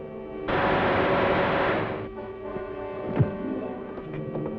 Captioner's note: gun fires